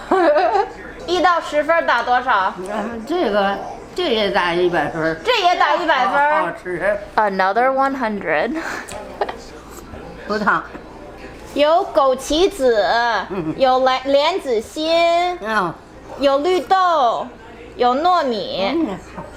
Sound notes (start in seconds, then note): 0.0 laughs; 1.1 speaking Chinese; 2.8 grandma speaking Chinese; 5.3 speaking Chinese; 9.1 laughs; 10.2 grandma speaking Chinese; 11.6 speaking Chinese